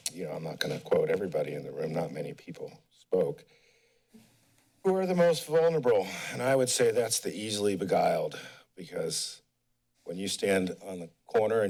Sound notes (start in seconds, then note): 3.7 pause; 6.0 sigh